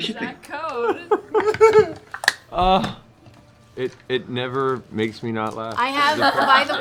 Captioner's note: laughs